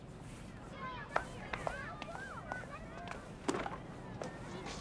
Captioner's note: children chatting